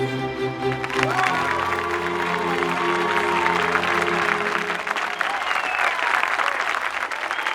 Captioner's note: audience applauding; audience cheering